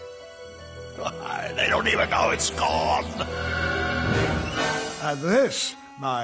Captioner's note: laughs